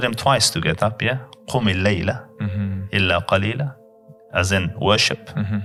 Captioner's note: Arabic